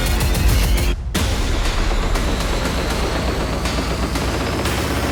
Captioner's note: dramatic banging